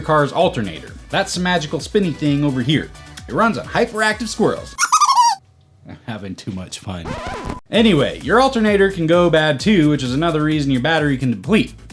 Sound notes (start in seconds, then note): 4.8 high-pitched squirrel laugh; 7.1 sound: Record Scratch